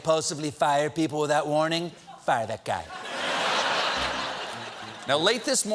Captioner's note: laughter